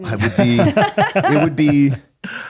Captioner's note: laughing